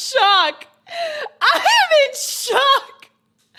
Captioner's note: gasps